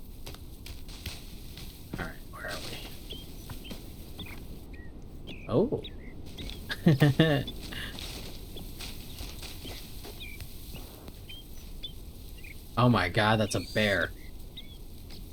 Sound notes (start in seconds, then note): 6.7 playful laugh